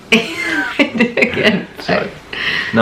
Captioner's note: laughing